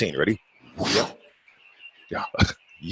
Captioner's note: swooshing